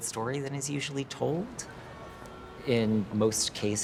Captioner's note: car horn honking